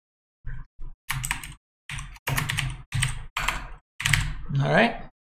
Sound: keyboard clicking

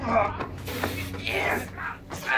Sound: Jake groans

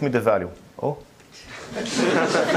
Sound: audience laughs

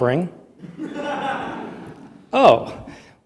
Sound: laughter

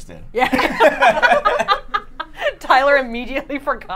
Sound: both laughing

